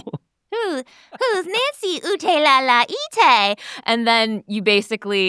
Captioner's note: speaks gibberish